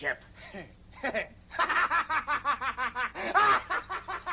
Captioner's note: laughing